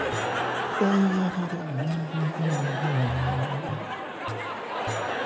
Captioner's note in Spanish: risas